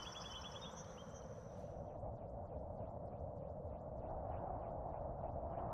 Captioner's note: mysterious Wind Sounds